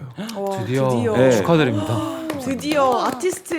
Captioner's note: applause